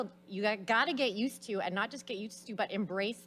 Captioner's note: none